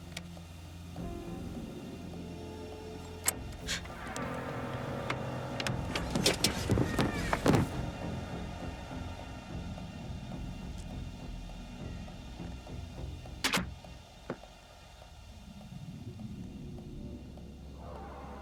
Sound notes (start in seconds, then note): 2.8 gasps; 3.0 door clicks; 3.9 tense music